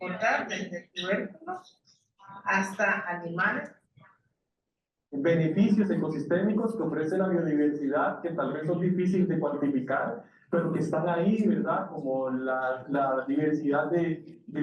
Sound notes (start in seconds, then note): 0.1 speaking in foreign language continues; 5.3 speaking in foreign language